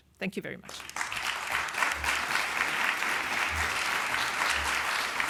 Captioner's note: applause